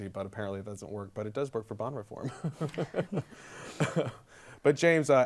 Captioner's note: laughs